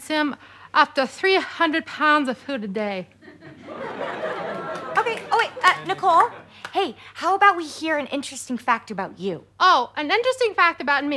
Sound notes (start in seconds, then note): 3.3 audience laughter